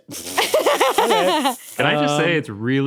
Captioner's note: snickers; laughs